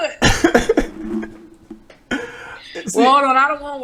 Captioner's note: laughing